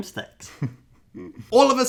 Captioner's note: laughing